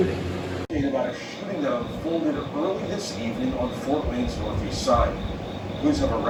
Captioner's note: on TV